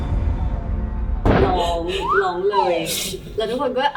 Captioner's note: sobbing